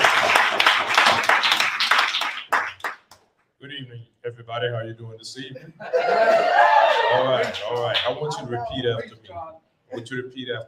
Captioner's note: applause